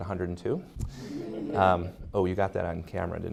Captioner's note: audience laughing